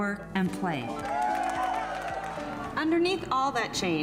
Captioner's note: people cheering